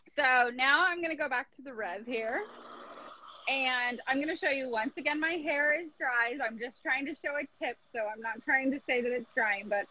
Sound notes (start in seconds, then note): 2.4 humming